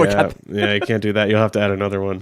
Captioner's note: laughs